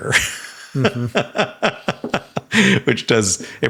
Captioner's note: Sam laughing